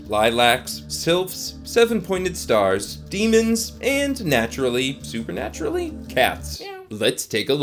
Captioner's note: meow